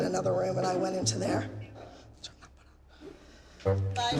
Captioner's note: whispers